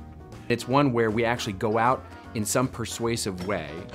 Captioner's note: voiceover